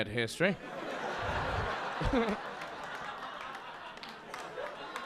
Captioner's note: audience laughing